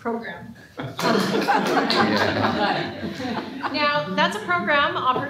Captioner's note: laughter